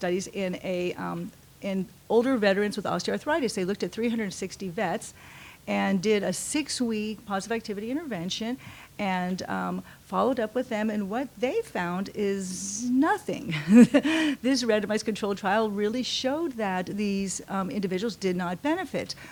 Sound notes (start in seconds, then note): 13.5 laughs